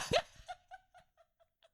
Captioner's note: laughing